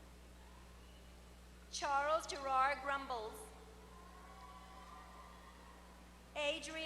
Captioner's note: applause